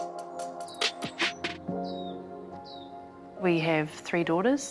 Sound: birds chirp softly

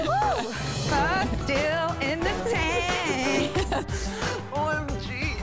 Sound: singsong voice

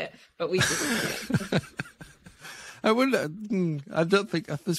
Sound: laughing

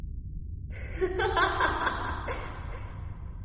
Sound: woman laughs

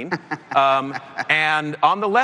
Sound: laughter

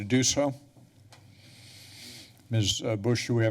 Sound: breaths steadily

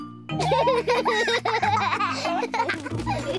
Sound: both laugh

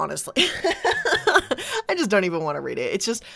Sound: laughing

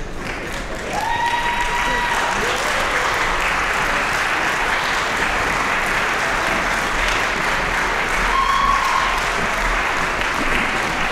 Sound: applause, cheering

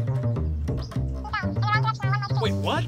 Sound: upbeat music; high-pitched gibberish

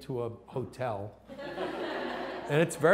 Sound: laughter

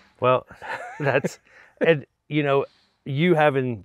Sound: chuckles

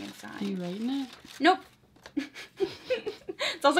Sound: laughs

